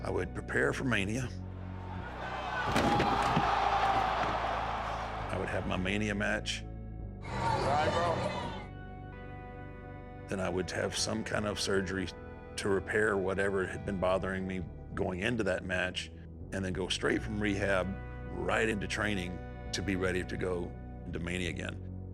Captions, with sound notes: I would prepare for Mania, (crowd murmuring) I would have my Mania match, You all right, bro? Then I would have some kind of surgery to repair whatever had been bothering me going into that match, and then go straight from rehab right into training to be ready to go into Mania again.